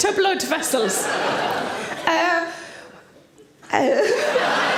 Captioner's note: audience laughs